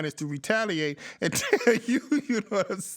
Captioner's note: laughs